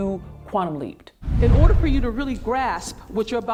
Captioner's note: air whooshing